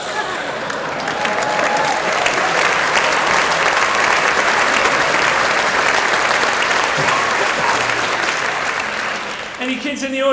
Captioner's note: laughter and applause